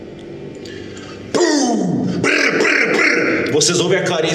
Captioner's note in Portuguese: pow